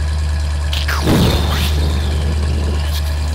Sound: explosion

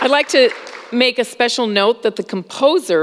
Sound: applause

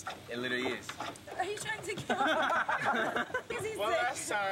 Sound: laughter

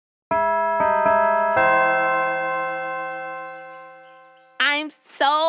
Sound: bells chime

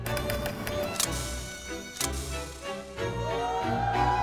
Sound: ting

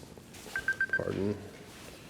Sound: alarm beeps

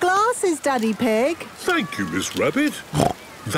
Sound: snorts

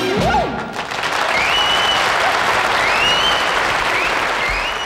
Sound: audience applauding

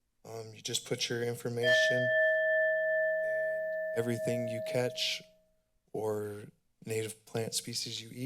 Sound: bell chimes

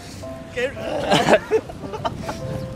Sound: still gagging

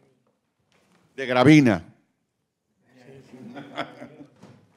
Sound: speaking Spanish

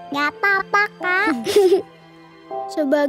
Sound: laughing

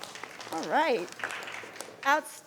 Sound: crowd clapping

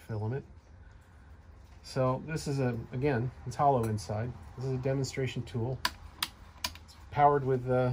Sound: switching sounds

